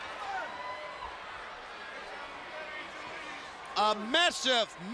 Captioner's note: crowd chatter; crowd cheering